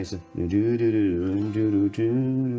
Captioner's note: humming